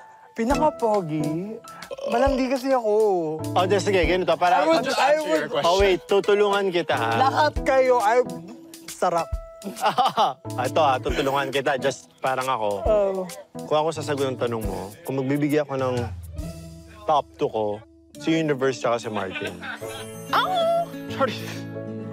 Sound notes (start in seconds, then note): 9.6 laughs